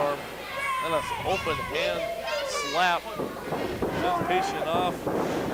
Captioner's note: crowd yells encouragement